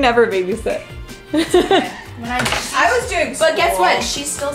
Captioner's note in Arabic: يضحك